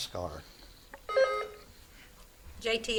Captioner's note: buzzer beeps